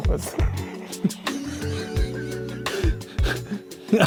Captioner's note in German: lachen